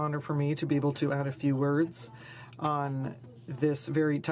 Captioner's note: speaking French